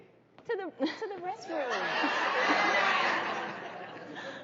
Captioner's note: crowd laughing